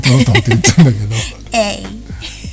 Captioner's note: laughs